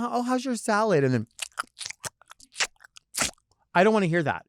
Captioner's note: licking lips